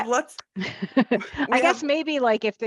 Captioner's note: laughing